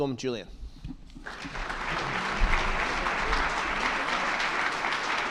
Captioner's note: attendees clapping